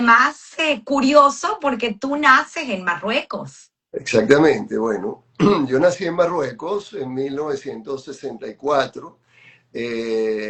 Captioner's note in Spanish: carraspeo